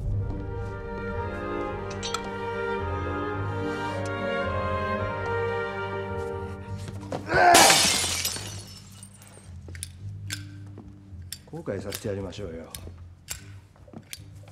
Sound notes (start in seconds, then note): 7.4 A sound of breaking glass; 9.8 A sound of a lighter lid opening and closing